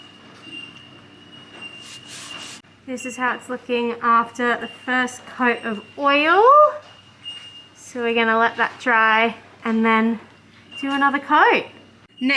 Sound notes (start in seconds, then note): 2.6 muffled talking through N95 mask